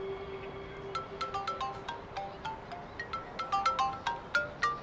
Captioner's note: mobile ringing